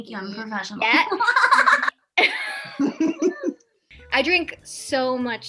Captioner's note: all laugh